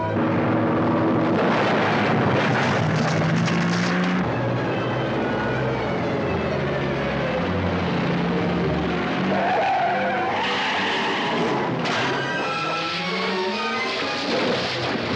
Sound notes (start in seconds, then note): 8.8 tires screeching